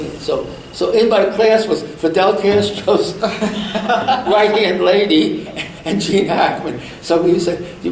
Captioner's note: all laugh